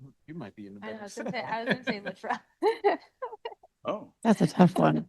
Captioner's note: laughs